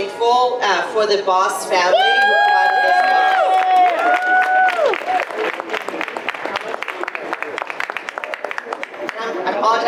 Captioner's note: audience applause